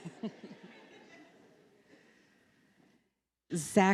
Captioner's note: laughter